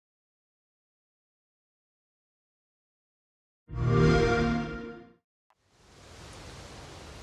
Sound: xbox sound

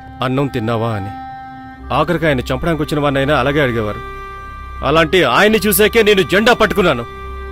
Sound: none

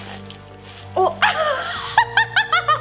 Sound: gagging; laughing

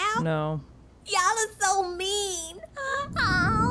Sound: crying

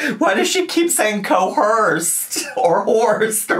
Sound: laughing

